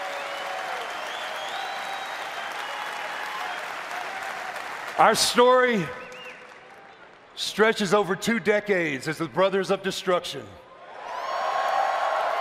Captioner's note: applause